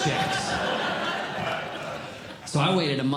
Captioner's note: audience Laughing